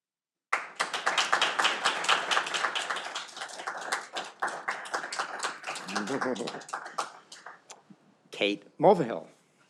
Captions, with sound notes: (audience applauding) Kate Mulvehill.